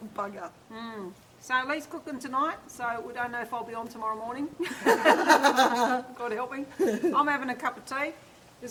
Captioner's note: laughter